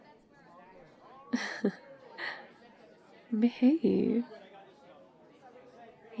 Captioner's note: laughs